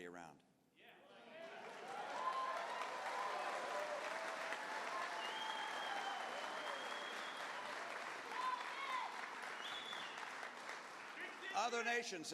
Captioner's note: cheers